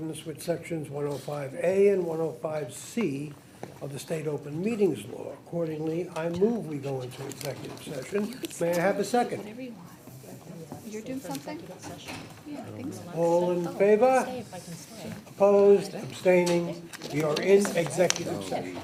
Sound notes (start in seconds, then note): 10.1 people chattering